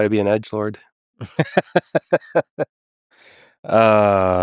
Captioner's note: Lex laughing